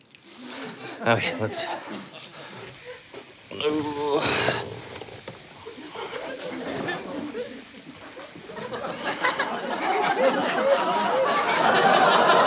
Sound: aerosol can spraying

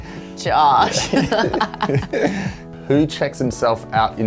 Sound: laughing

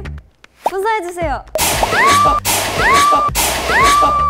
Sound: intense spray

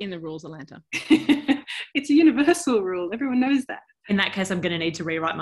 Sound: chuckling

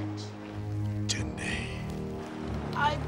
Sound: non-english speech

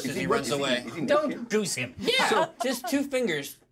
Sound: laughs

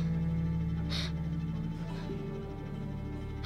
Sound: gasps

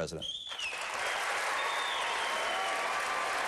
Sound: applause

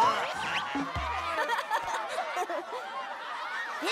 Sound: giggles

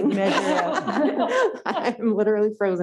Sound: laughing

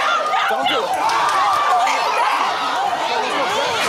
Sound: crowd screaming

